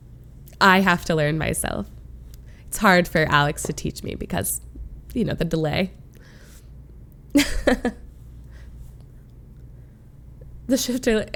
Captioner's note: laughs